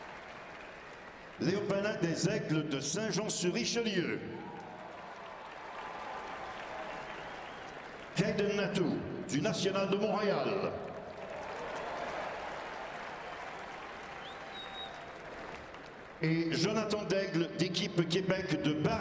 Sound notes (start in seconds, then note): 4.9 speaking French; 8.8 cheering and applause